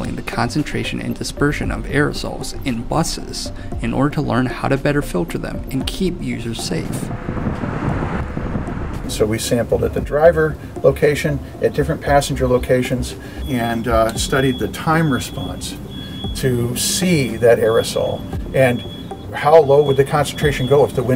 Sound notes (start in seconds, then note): 6.6 bus driving